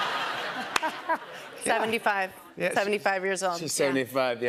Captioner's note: laughter